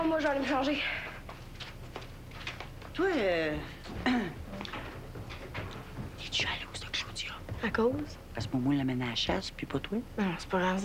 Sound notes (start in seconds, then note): 4.0 Elle se racle la gorge; 6.6 Elle chuchote